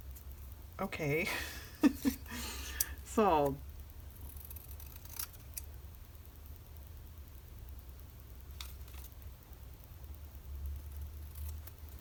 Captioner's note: laughs